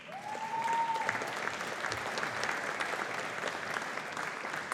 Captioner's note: audience applauding